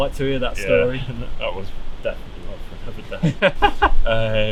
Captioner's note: indistinct chatter